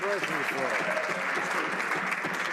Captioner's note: some Applause